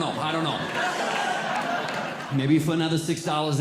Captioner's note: audience Laughing